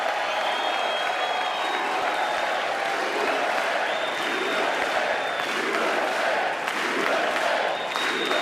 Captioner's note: applause